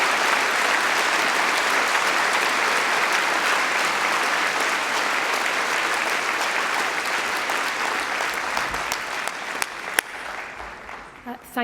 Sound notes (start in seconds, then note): 5.4 applause